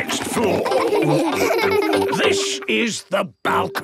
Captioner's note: laughing